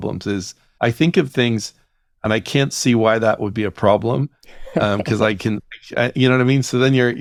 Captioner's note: laughs